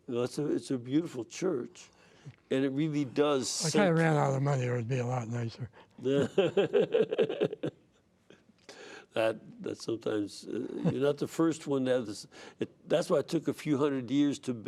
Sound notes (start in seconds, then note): 6.0 laughter